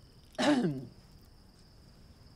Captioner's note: Clive clears throat